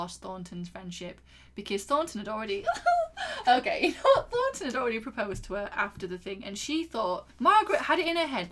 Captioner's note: giggles